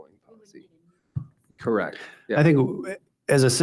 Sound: speaks faintly

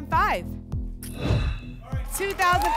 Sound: whoosh

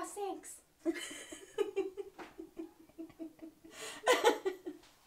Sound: laugh

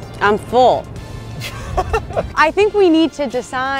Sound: laughs

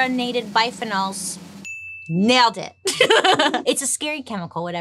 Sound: bell dings; laughs

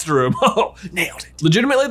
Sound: chuckles

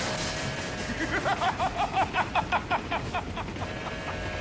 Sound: Gomez laughs

